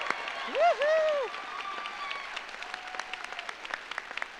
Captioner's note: audience applauds; audience cheers; cheers